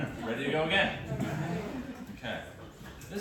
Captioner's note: laughter